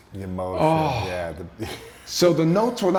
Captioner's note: sighing